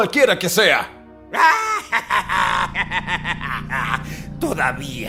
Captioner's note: laughs